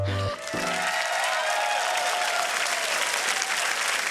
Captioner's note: cheering, applause